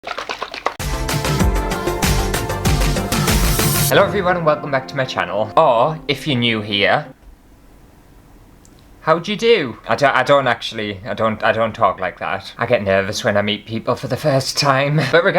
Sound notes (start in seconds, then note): 0.0 swishing Liquid; 0.8 intro Music